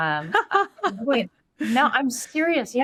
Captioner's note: laughing